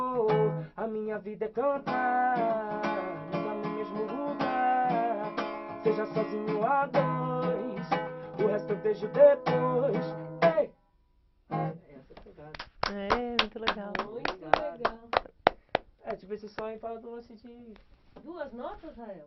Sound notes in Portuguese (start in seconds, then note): 12.5 Aplauso